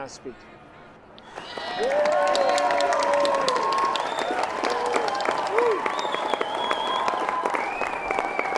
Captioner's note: crowd cheers and whistling